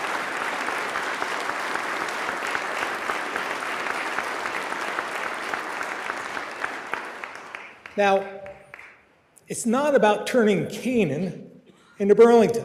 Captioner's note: applause